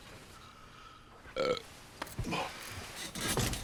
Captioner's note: burps